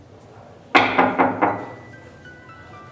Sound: door knocking

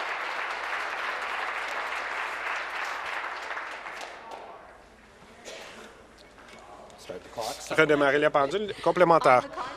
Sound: applause

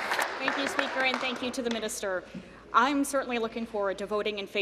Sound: applause

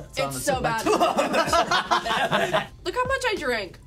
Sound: laugh

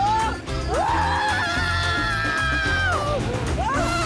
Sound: screaming

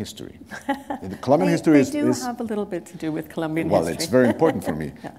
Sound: chuckle

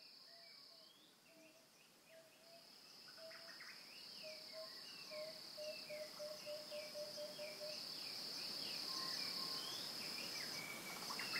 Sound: African birdsong

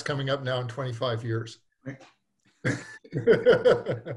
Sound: laughs

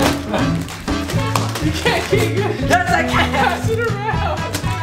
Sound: paper rustling; upbeat music

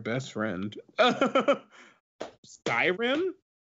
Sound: laughs

